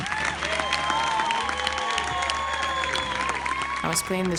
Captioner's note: announcer speaks foreign language; crowd cheers